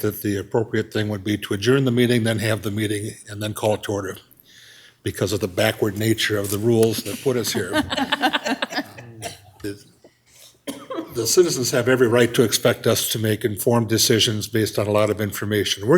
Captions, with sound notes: that the appropriate thing would be to adjourn the meeting, then have the meeting and then call it order because of the backward nature of the rules that put us here. (all chuckle) The citizens have every right to expect us to make informed decisions based on a lot of information.